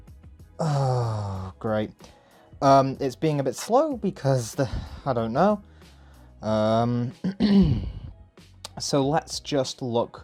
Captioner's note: clears throat